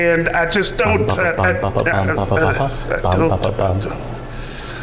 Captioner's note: mumbles melody